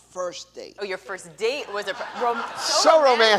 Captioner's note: laughter